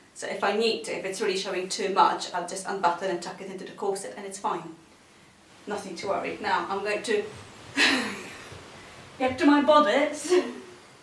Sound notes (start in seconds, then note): 7.8 chuckles